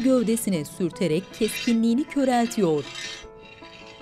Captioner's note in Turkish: Çelik sürtünme sesi